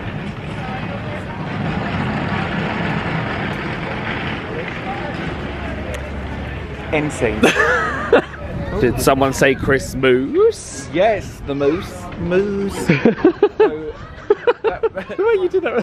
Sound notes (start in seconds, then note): 1.1 tires clanking; 7.3 laughing; 12.7 laughing